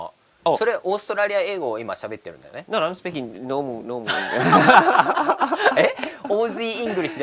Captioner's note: laughs